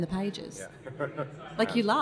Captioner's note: laughs